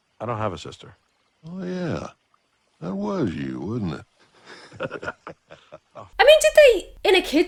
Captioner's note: laughs